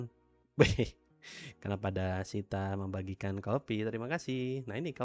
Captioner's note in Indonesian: tertawa